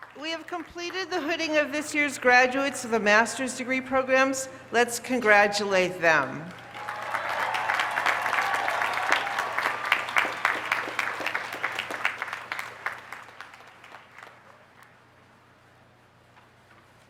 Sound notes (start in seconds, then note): 6.5 cheers and applause